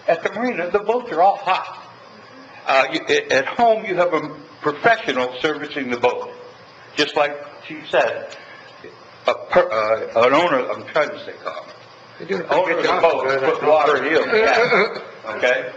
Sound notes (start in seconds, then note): 9.8 speaking faintly